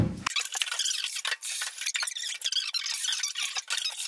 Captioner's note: squeaking